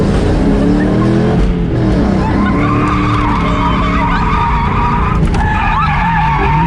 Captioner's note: laughing and occasionally saying "oh my god!"